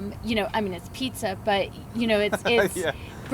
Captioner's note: laughs